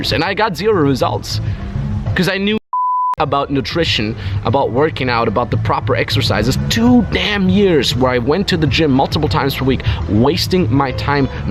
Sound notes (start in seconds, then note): 2.6 beep